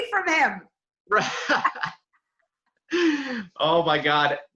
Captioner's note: laughs